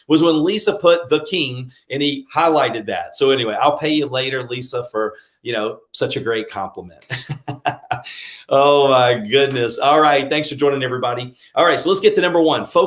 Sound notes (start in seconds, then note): 7.0 laughs